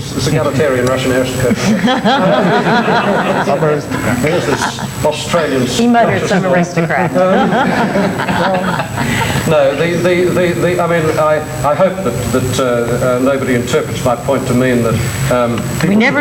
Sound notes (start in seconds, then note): 1.4 everyone laughs; 6.8 everyone laughs